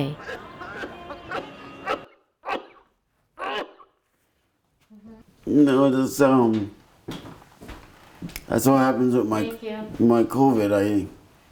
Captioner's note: coughing